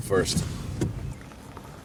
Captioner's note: shifting gears